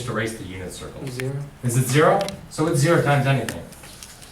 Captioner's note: voiceover